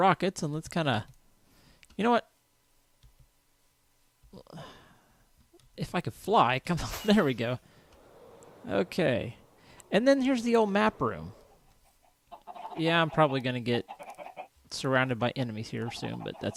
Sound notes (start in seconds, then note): 4.4 sigh